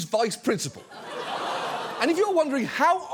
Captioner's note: audience laughs, gasps